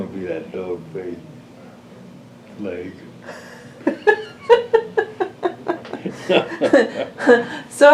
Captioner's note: laughter